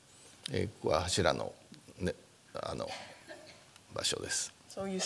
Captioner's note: speaking japanese